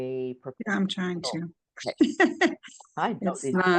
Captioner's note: laughs